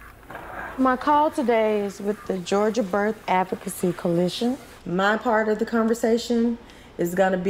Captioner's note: none